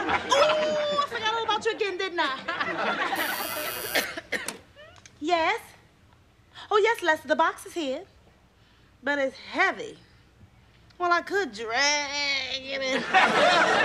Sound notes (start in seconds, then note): 3.1 intercom buzzing